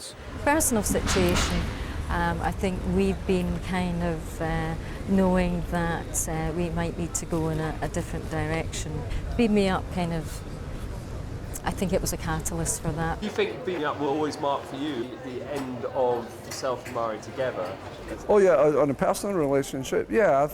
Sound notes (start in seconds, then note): none